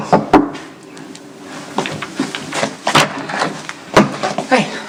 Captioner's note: knock on door